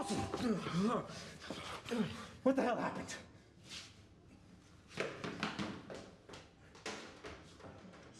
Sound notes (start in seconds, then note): 1.7 gasps